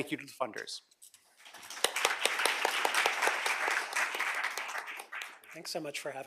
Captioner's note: applause